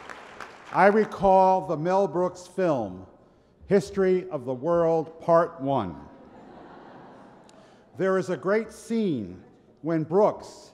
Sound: laughter

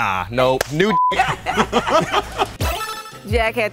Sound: laugh

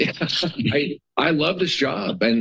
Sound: laughs

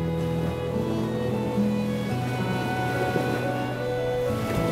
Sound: waves lapping

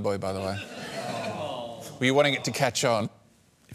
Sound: scattered groaning

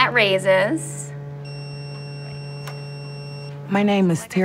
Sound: machine beeps

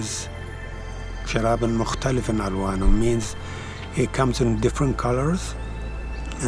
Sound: speaks Arabic

